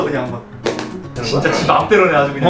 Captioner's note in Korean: 둔탁한 툭 소리